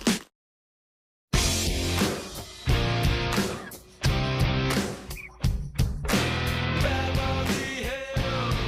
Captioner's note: Crunch